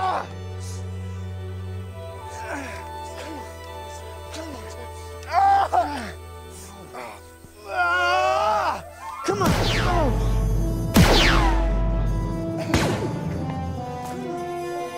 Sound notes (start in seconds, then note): 9.4 blaster fire